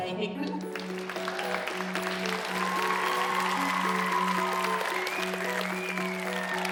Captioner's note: gentle music; audience applauding